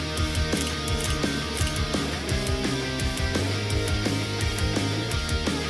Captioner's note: camera shutter clicking